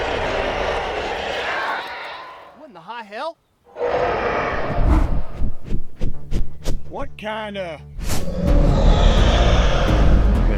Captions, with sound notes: [Loud screeching roars] What in the high hell? [Roar from above] [Large wings flapping] What kinda... [Loud roar]